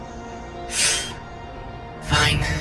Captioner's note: sharp inhale from Ace